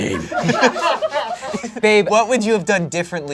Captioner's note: audience laughing